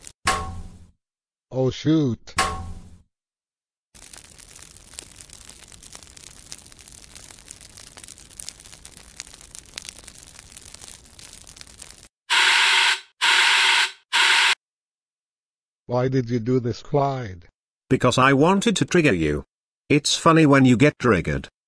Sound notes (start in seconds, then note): 0.2 barbecue metal hit; 2.4 barbecue metal hit; 12.2 fire extinguisher spray